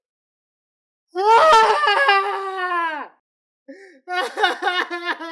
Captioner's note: screams; sobbing